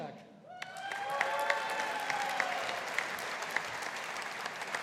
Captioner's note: audience applauding